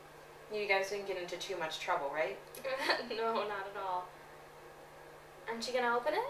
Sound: fake laugh

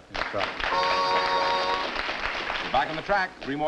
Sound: applause

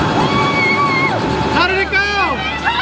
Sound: cheers

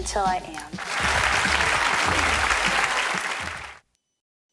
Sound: applauding

